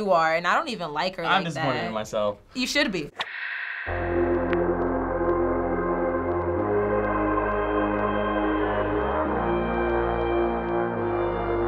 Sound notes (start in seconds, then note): 3.2 static; 3.8 synthesizer playing